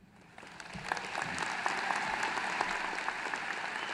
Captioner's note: applause